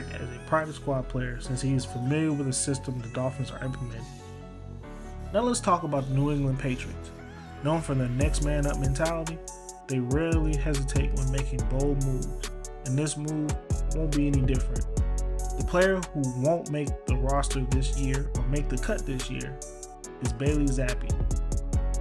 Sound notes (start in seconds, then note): 5.7 voiceover